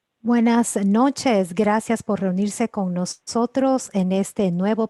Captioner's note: speaks in foreign language